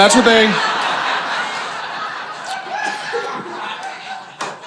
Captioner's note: audience laughing